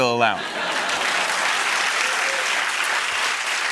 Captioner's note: laughter and applause